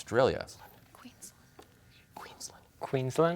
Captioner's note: whispers